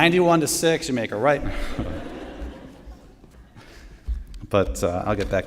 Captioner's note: laughter